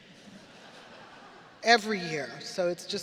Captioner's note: audience laughing